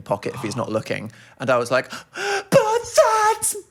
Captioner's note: gasp